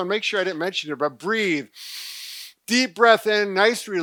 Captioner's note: breaths heavily